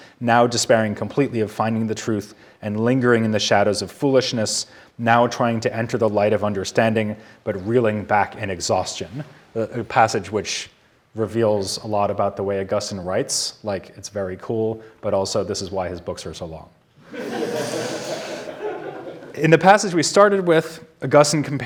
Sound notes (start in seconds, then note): 17.0 audience laughing